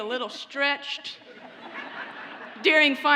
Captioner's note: audience laughs